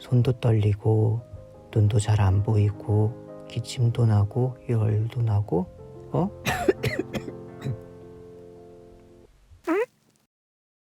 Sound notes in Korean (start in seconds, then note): 6.4 기침 소리